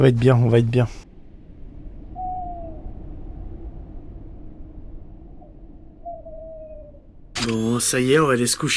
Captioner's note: owl sound